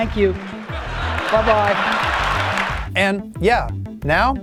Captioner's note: crowd applauses